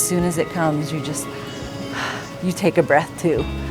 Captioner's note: sighs